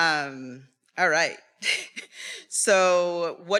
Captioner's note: attendees laughing; laughs